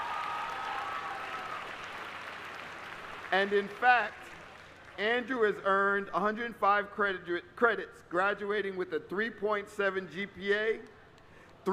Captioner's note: applause